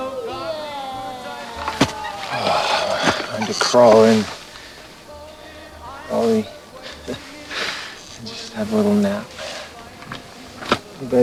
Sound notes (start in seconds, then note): 0.0 meowing; 2.7 sighs; 6.7 laughs